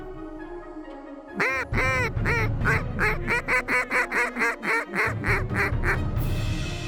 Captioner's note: duck calls